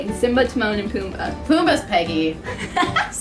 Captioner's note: laughs